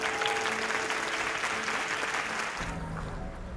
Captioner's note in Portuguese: Aplausos